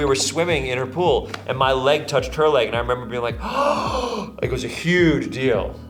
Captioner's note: gasps